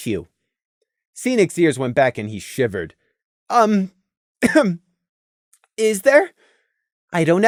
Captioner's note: ehem